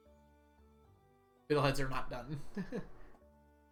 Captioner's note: chuckles